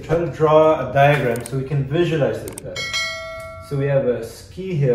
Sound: bell ringing

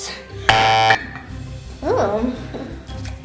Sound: beeps buzzer

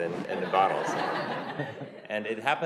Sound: laughter

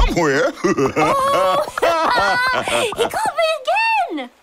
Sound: laughing

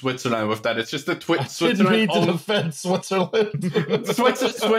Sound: laughing

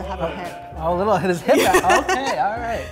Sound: laughing

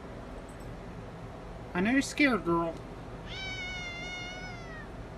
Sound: Caprice meows

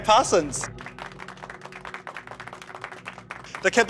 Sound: mild applause

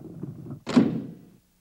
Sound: thump

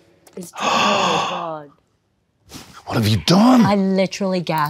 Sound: gasps

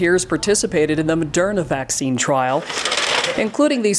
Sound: roll door clicking

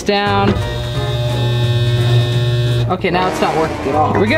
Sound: sewing machine buzzing

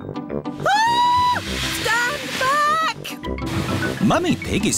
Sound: shrieks

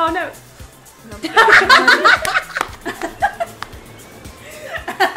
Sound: all laughing

